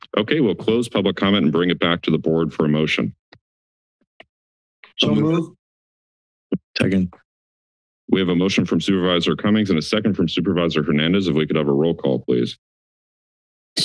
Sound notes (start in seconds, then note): 3.8 silence; 12.7 silence